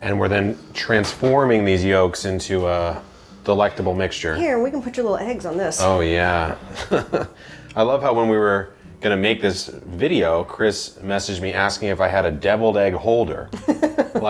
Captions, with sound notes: - And we're then transforming these yolks into a delectable mixture. - Here, we can put your little eggs on this. - Oh yeah. (chuckles) I love how when we were gonna make this video, Kris messaged me asking if I had a deviled egg holder.